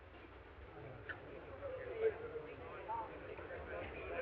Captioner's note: all chattering